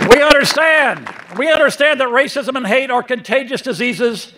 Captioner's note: applause